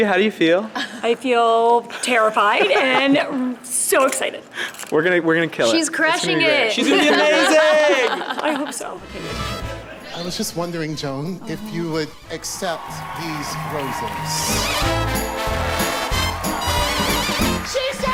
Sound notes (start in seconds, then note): 2.6 laughing; 9.2 cheerful upbeat music; 13.7 audience cheering; 14.1 upbeat orchestra music; 16.0 everyone clapping; 17.1 upbeat orchestra music